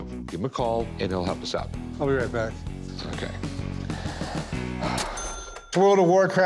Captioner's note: sighs